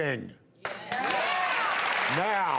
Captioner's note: audience cheers